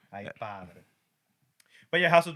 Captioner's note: speaking Spanish